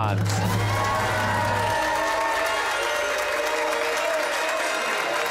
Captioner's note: cheers and applause